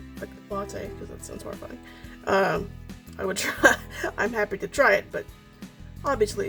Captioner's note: laughs